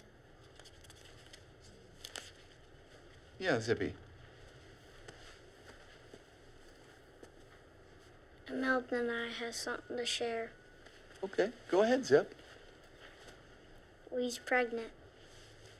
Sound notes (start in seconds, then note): none